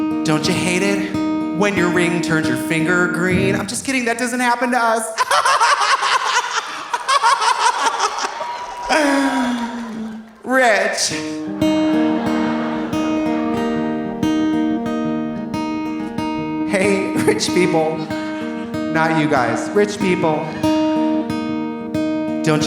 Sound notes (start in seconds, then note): 5.1 laughs; 8.4 audience laughing; 11.7 gentle guitar music